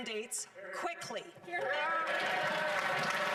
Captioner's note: cheering